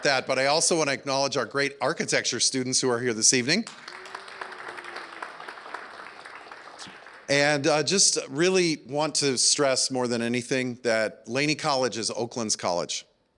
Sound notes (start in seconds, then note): 3.6 applause